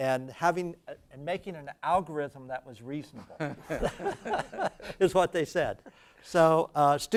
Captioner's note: laugh